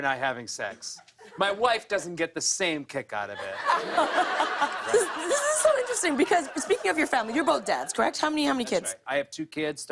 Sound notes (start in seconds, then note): 3.3 laughter